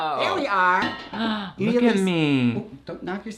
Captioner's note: gasps